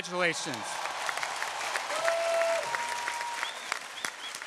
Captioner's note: audience cheering